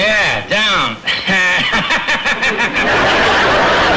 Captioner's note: laughs; audience laughter